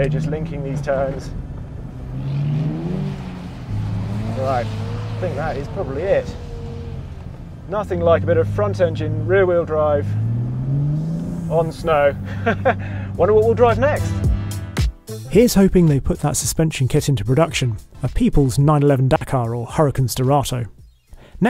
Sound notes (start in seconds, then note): 2.2 car engine revs; 12.2 chuckles; 14.7 upbeat music